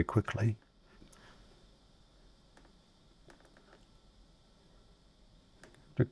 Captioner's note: silence